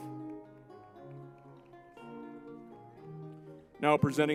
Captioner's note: lively music; crowd applauding